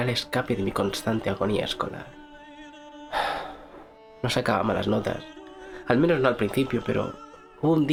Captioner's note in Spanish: Suspiro